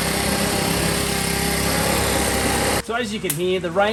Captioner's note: leaf blower motor roaring